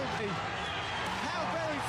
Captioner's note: crowd cheering